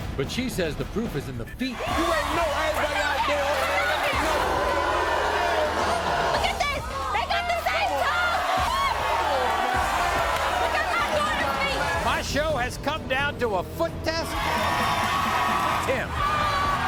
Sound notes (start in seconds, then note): 2.0 yelling; 4.4 audience booing; 8.3 audience yelling; 10.9 yelling; 14.2 cheering